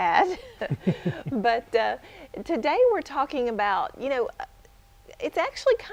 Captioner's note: chuckle